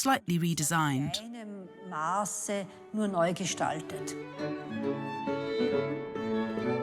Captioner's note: speaks in foreign language